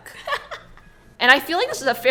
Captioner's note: laughs